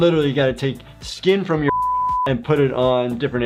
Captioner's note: beep